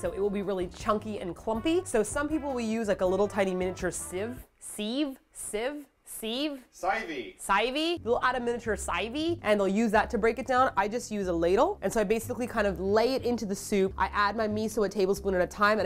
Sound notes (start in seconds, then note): none